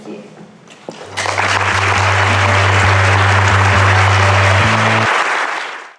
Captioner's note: applause